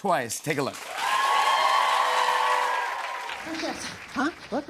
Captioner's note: cheers and applause